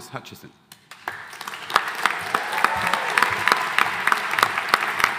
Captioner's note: audience applauding